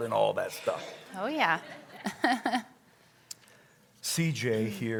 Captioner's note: chuckles